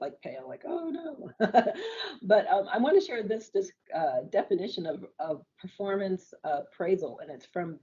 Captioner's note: laughs